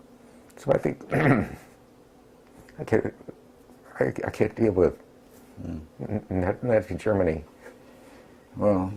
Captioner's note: cough